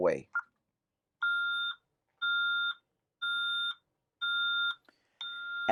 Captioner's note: alarm beeping